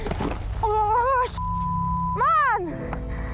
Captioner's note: beep; upbeat music